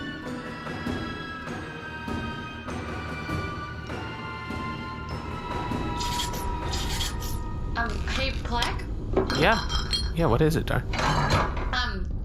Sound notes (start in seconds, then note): none